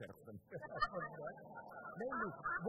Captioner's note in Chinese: Laughter; 笑声